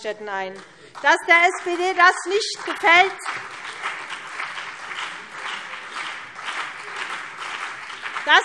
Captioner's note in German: Beifall CDU und BÜNDNIS 90/DIE GRÜNEN